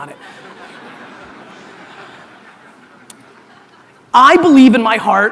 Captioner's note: audience laughter